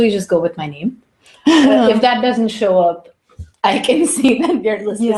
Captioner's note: laugh